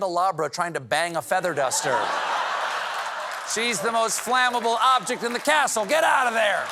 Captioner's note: laughter